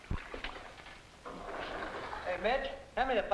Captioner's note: water splashing